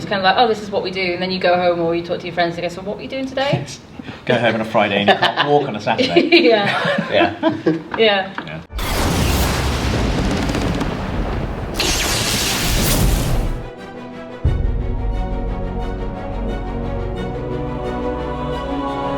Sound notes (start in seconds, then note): 6.2 laughs; 8.7 lightning exploding; 13.5 swelling orchestral music